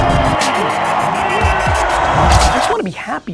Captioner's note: plane engine roaring; crowd cheering